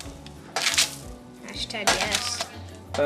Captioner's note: paper rustling